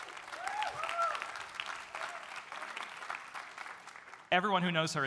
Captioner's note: audience cheering; audience applauding